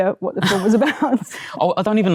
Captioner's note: laughs